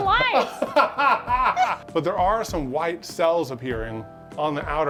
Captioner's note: laughs